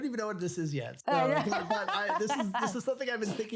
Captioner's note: laughs